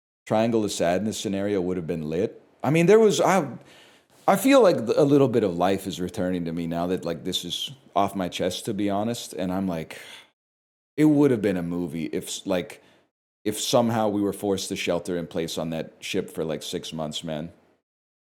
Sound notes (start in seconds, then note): 10.0 sigh